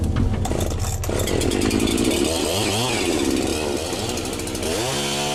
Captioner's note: starting up saw